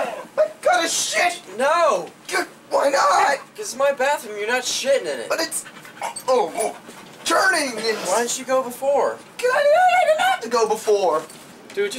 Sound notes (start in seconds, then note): 0.0 everyone grumbling; 5.9 heaving sound effects